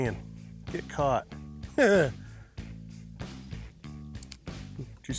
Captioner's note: laughs